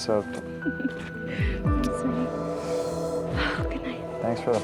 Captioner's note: laughs